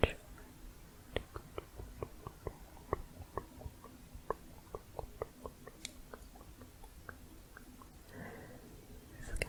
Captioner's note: muffled tongue clicking